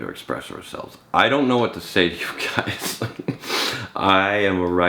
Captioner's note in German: lacht